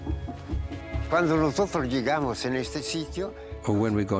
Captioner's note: speaking Spanish